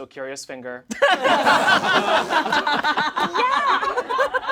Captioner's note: all laugh